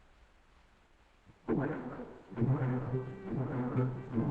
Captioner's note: machine working